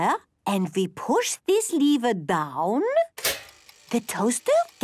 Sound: clicks

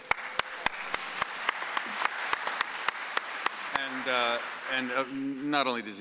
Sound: audience applauds

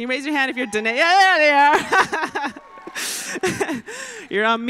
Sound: laughter

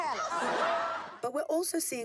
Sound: laughing

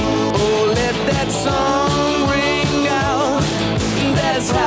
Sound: ooh, ooh, ooh

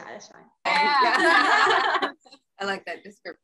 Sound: laughs

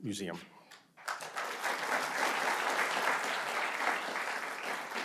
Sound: audience applauding

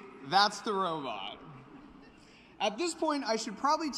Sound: laughter

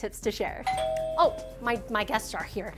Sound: bell rings

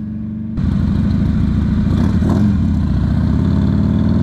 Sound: engine roaring

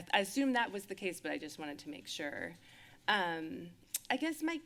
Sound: lips smack

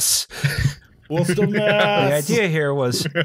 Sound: laughs

